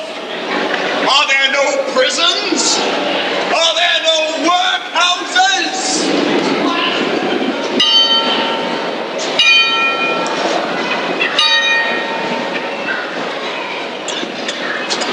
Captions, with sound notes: – "Are there no prisons? Are there no workhouses?" [Bell tolls thrice.]